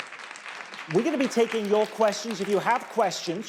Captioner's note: audience clapping